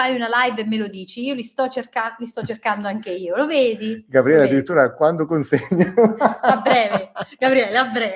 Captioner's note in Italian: risate